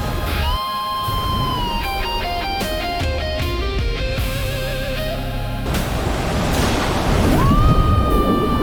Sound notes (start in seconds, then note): 2.6 rapid waves